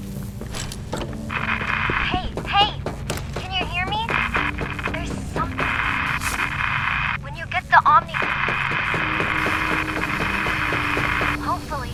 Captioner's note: Static